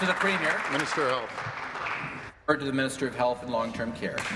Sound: applause

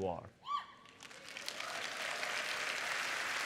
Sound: applause

